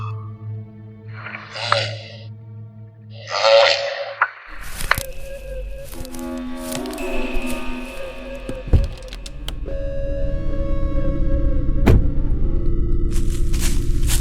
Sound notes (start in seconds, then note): 1.2 deep, demonic grunts; 4.4 branch rustling